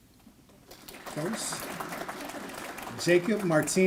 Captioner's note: applause